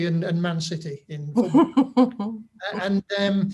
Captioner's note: laughs